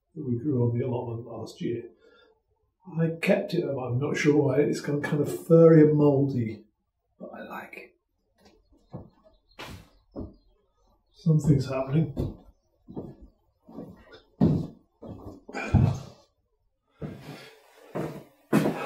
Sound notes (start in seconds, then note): 12.8 footsteps; 16.9 heavy breathing